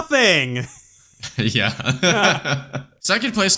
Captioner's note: laughs